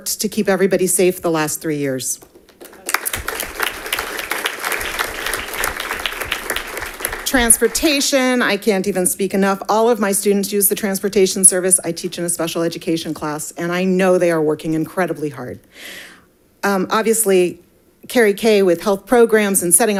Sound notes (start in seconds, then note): 2.2 audience applauding